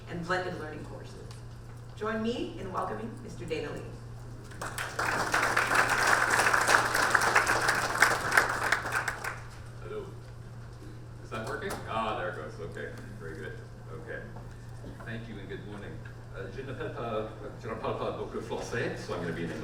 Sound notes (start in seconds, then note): 4.4 audience applaud